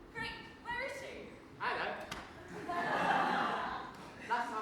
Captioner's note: audience laughs